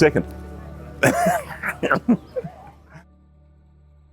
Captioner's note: laughs